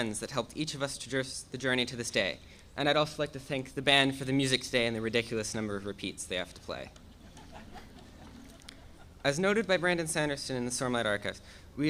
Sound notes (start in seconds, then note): 7.1 audience laughing